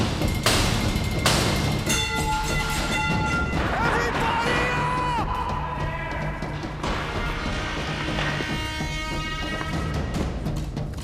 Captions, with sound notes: [ METAL CLANGS ] EVERYBODY UP!